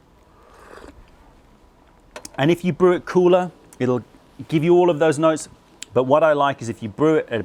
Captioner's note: sips tea